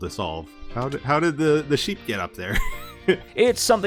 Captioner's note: laughs